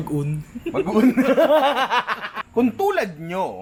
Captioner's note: laughter